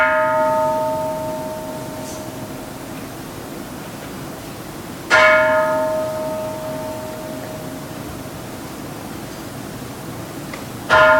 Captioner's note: Kansho ringing